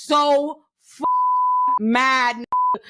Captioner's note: beep